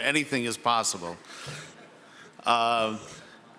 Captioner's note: some people chuckle